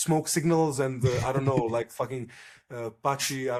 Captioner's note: laughs